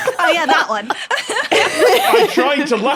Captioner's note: guests laughing